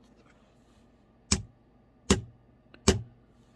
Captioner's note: whack, whack, whack